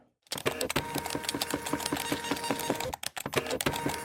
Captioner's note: machine humming